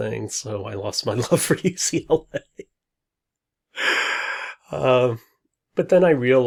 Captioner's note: laughs